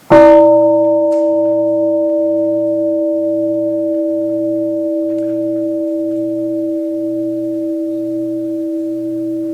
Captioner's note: gong